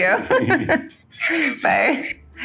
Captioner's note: Jordyn laughs; giggles